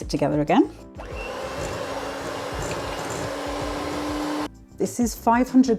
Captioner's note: hand mixer whirring